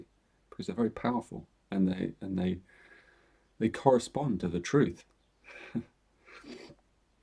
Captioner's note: chuckles